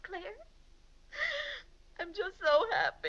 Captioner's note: sobs